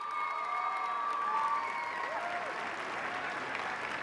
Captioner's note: cheers and applause